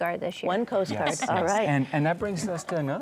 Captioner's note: laughs